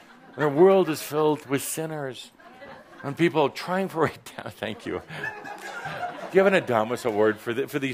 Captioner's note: someone is laughing